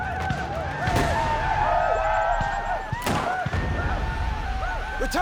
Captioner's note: whooping